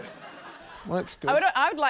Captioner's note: laughter